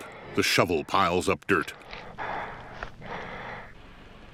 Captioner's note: heavy breathing